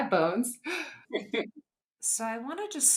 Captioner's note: laugh